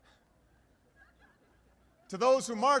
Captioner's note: laughter